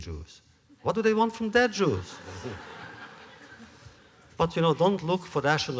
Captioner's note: laughter